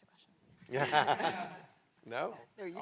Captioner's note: all laughing